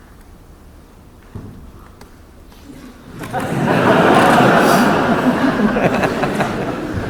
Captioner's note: laughter